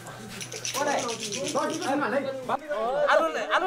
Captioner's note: excited conversations